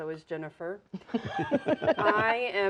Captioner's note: all chuckling